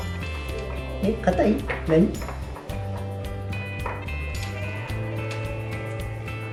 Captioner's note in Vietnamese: cười